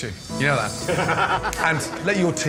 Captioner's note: laughs